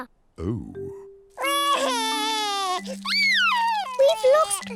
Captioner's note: wailing